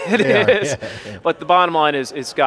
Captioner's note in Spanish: risas